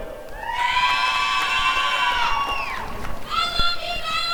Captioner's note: applause and cheering